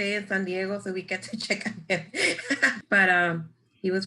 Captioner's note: laughs